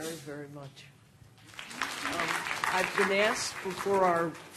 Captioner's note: applause